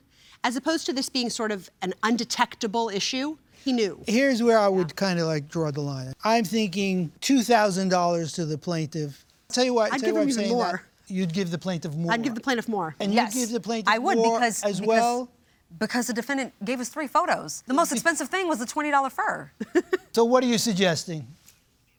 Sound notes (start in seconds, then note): 19.9 laughs